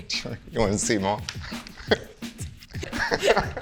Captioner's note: laughs